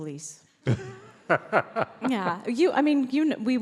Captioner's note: laughs